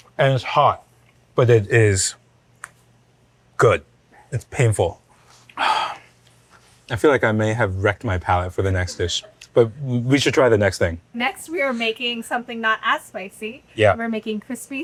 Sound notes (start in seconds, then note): 5.6 host sighs; 8.8 laughing